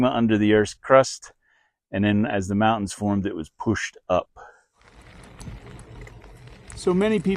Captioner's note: gravel crunching